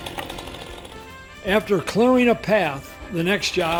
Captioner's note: voiceover